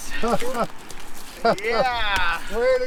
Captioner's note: laughs